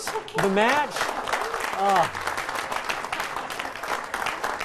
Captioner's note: applause